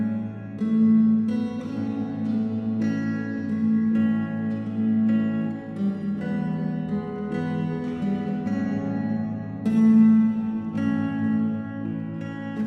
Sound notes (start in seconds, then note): none